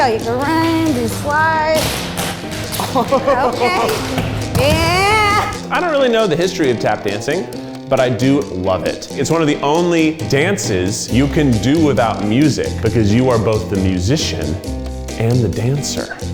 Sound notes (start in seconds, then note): 2.8 laughing